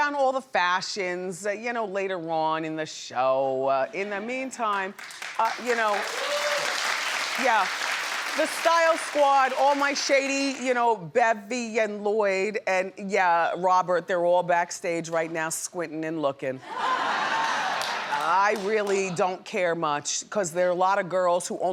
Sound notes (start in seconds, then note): 4.9 audience applauds; 16.6 audience laughs